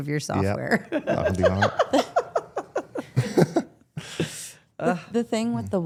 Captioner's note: participants laugh